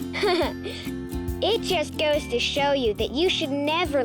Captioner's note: laughs